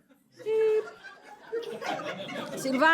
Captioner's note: laughter